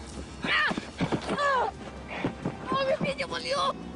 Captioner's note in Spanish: Grito de dolor